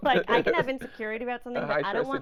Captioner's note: laughing